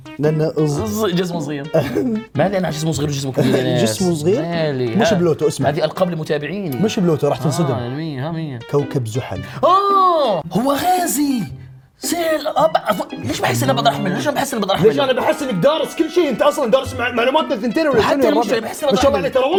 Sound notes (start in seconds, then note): 3.3 chuckles